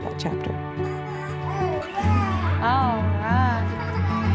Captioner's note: baby cooing